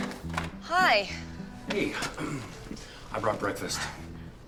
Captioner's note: clears throat